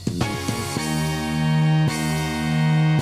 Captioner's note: none